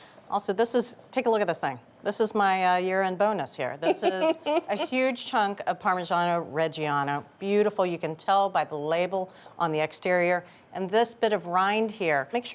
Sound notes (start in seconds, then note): 3.8 laughing